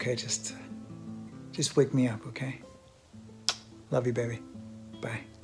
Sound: kiss sound

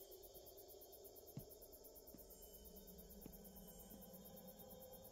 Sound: footsteps thudding

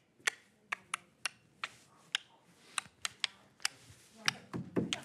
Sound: clicking tongue

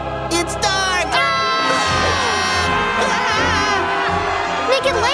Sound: screaming

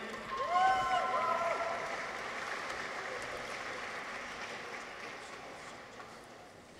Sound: audience applauds; people cheer

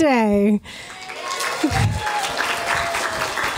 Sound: cheering and applause

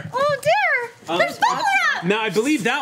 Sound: overlapping chatter

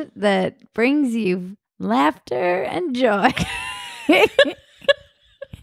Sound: laughing

